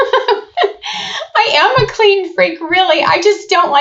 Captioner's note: laughs